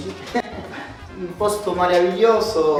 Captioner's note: laughs